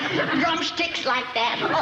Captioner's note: chuckles